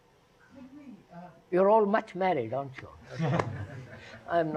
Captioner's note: laughter